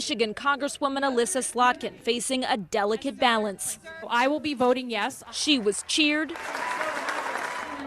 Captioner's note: crowd sounds